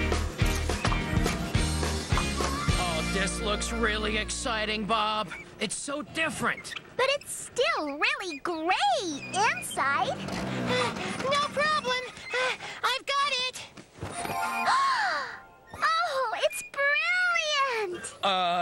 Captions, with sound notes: AW, THIS LOOKS REALLY EXCITING, BOB! IT'S SO DIFFERENT! BUT IT'S STILL REALLY GRAY INSIDE. ( Breathless ) NO PROBLEM! I'VE GOT IT! ( Gasp! ) OHH, IT'S BRILLIANT!!